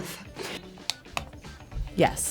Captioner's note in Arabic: نقرات الزر